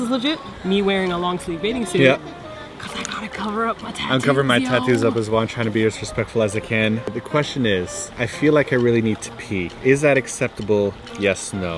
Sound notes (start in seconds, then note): 2.6 whispering